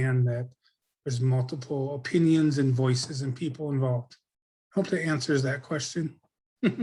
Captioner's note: laughs